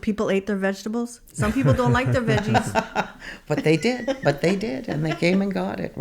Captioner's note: laughs